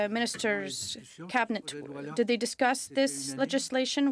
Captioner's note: speaking French